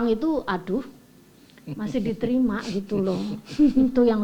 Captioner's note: laugh